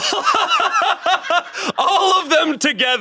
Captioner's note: laughs